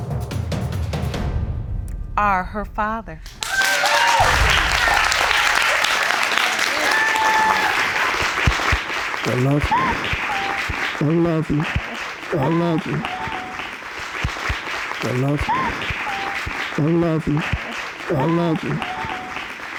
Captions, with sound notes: ...are her father. (AUDIENCE CHEERING) I love you. I love you. I love you. (SOBBING) I love you. I love you. I love you.